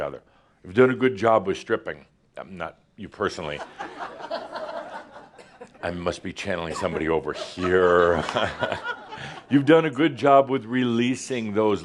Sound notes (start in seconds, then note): 3.7 laughter; 6.7 chuckles